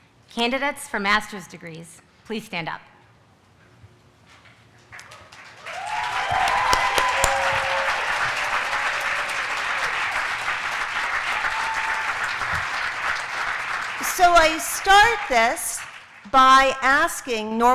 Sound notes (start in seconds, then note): 4.9 applause